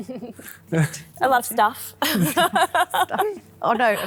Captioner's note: giggles; laughs